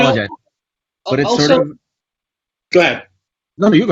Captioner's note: Jose's mic warbles